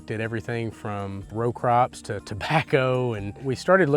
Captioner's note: chuckling